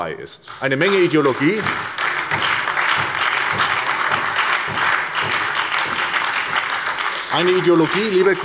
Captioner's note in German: Beifall bei der SPD und der FDP